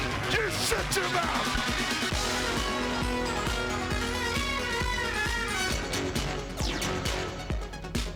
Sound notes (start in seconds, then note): 0.0 crowd clamoring; 3.4 lively music